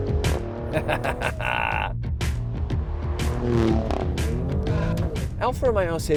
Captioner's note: chuckle